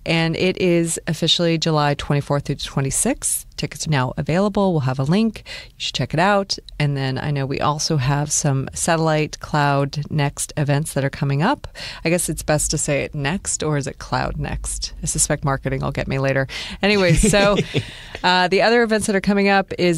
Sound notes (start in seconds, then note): 16.9 laughter